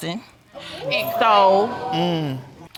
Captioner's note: audience gasps